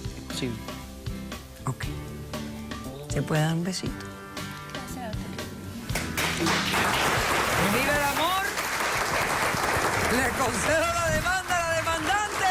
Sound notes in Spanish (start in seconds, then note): 5.9 aplausos